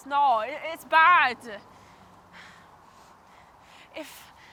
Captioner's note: sighs